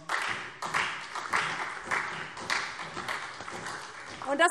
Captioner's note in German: Beifall SPD